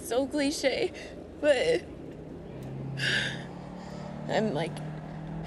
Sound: sighs

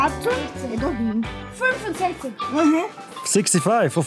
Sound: in German

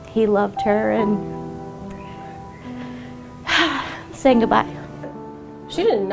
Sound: sighing

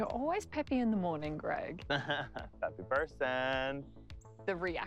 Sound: laughing

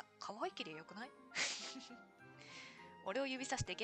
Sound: laughs

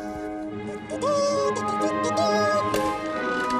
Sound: Ikong vocalizes

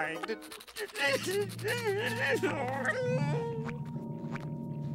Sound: whimpering

